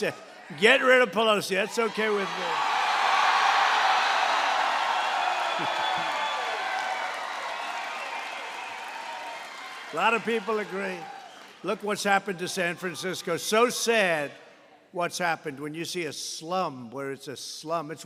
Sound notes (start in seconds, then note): 3.0 applause